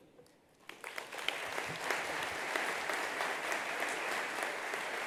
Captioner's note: attendees applauding